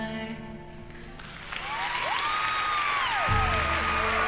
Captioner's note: applause